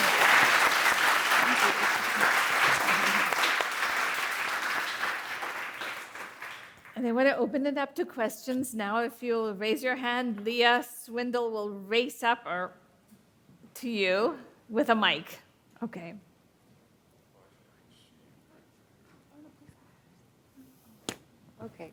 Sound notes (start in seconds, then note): 0.0 people applauding